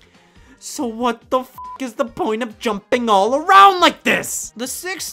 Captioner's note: beeps